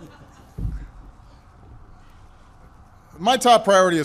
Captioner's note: laughter